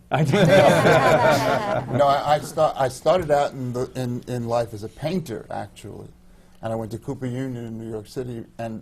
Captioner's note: laughter